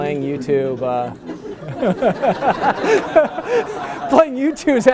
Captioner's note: laughter